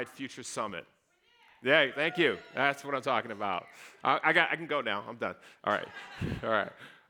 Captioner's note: cheering